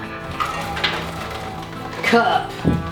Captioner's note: rattling